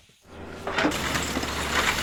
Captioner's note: debris falling